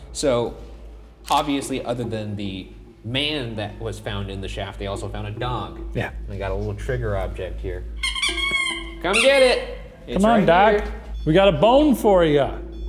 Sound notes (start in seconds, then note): 7.9 squeaks toy